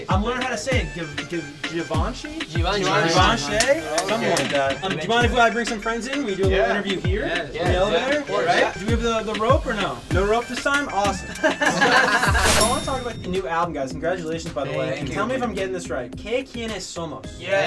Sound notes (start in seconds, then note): 11.2 laughs; 12.6 elevator dings